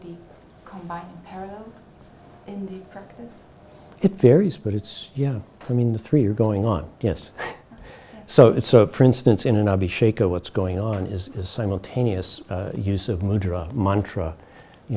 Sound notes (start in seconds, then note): 7.3 chuckles